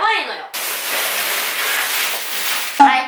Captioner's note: the sound of peeling off